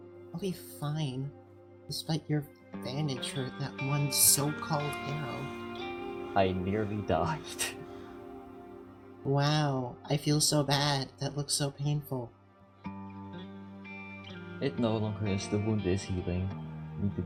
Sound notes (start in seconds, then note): 7.8 crows cawing